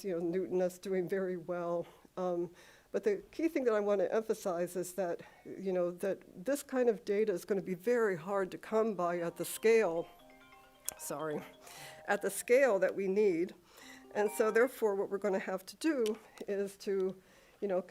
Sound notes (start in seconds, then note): 9.2 phone ringing